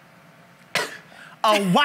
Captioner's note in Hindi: खांसी